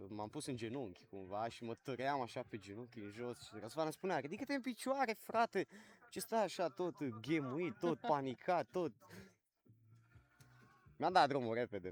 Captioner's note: everyone laughs